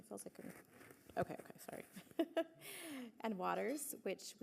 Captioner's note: laughs